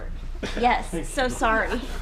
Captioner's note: laughing